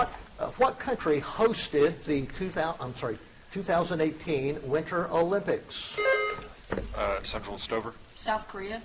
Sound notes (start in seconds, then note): 6.0 buzzer dings